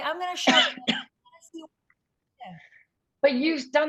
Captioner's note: coughing